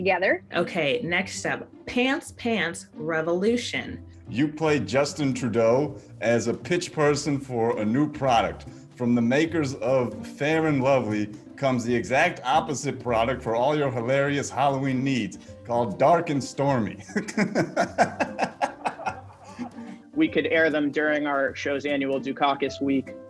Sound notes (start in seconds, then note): 17.0 laughing